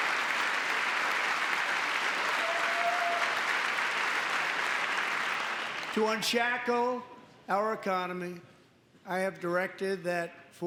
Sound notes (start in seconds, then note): 5.8 applause; 5.8 cheering